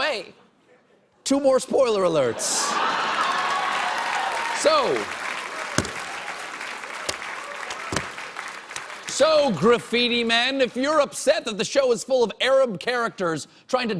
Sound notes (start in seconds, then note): 2.7 cheers and applause